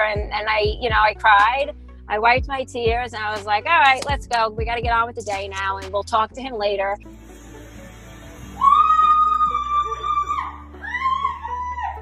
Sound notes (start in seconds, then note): 8.5 screaming